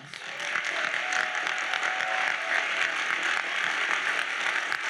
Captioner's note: audience cheers and applauds